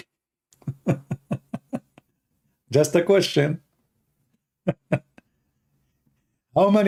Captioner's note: Ketawa